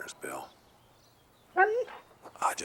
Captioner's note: Buck whimpers